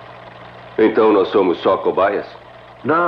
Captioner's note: none